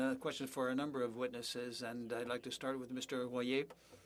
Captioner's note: speaking French